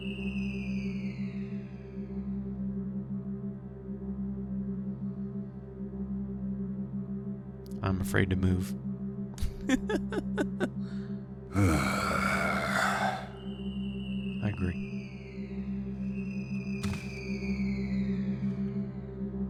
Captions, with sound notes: I'm afraid to move. [laughs] [Guard sighs loudly] I agree.